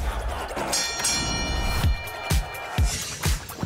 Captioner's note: boxing bell ringing